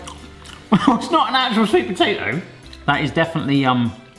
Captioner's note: chuckling